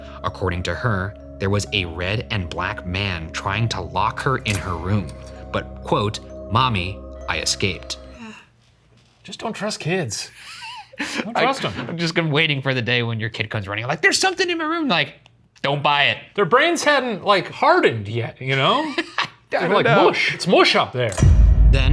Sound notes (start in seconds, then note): 10.4 laughs